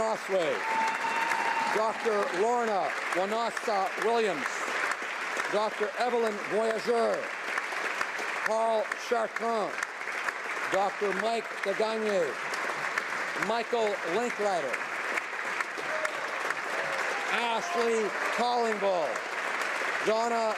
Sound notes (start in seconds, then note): 4.4 applause; 20.3 applause